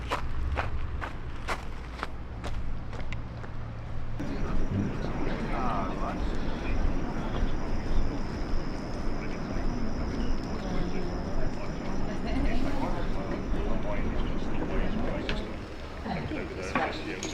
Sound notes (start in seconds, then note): 6.1 nature and crickets; 13.2 distant chatter